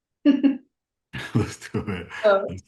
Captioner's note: chuckles